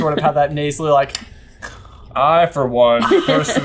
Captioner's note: mimics snoring